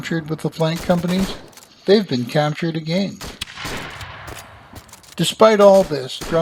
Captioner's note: cannon and musket fire